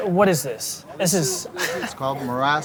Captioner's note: chuckles